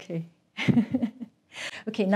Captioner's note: laughs